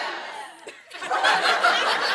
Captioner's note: laughter